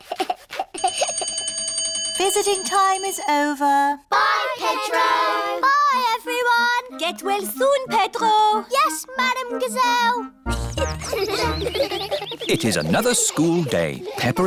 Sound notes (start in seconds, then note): 0.0 giggles; 0.8 bell rings; 10.4 children giggling